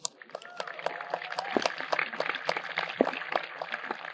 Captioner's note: audience applauding